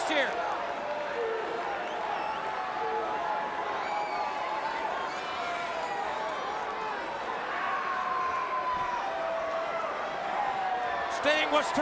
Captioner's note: crowd chatter